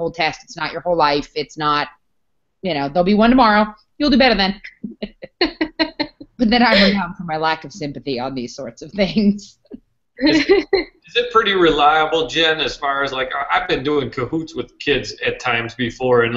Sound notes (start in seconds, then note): 4.5 laugh